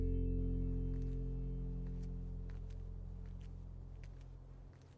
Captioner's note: footsteps pattering